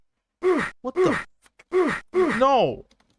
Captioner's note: meatbeating sfx